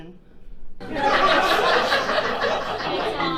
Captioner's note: audience laughing